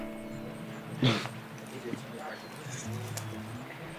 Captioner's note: chuckles